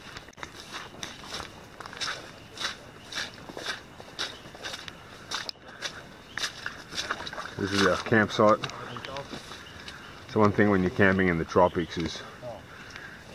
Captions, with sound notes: (footsteps through the vegetation) - [Voiceover] This is our camp site. So one thing when you're camping in the tropics is